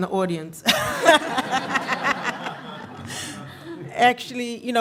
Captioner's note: laughing